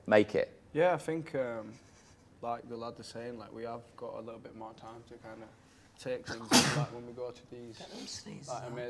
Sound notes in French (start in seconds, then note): 6.2 éternue